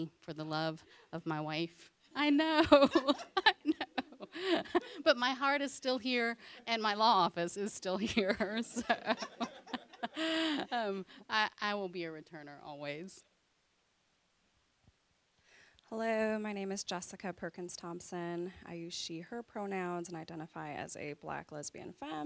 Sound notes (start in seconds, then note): 2.7 audience chuckling; 8.0 audience laughing